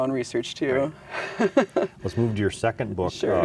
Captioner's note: laughs